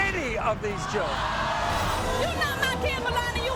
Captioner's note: audience screams